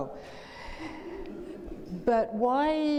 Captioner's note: audience laughing